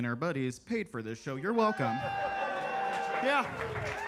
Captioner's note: attendees cheer and clap